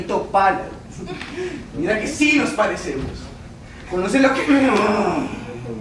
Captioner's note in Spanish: Gruñidos